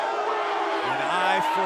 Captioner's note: cheers & boos